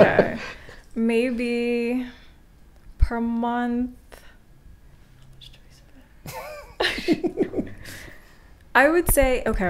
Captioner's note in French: chuchote